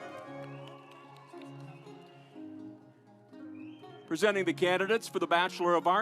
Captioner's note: audience applauds